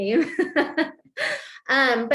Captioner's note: laughter